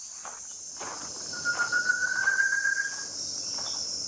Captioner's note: Thicket Antpitta Calling